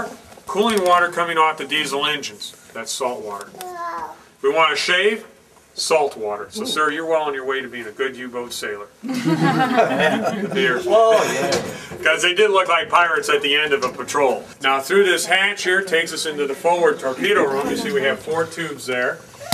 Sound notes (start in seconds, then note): 9.0 laughter